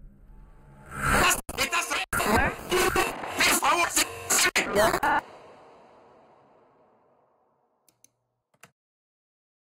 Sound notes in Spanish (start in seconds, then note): 2.7 Voces distorsionadas